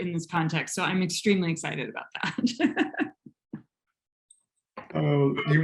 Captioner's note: chuckles